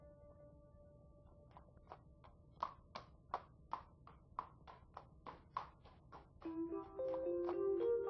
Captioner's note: clip-clop sound of horses' hooves